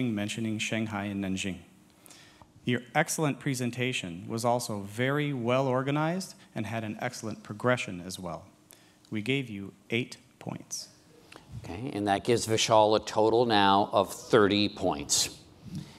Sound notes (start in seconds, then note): none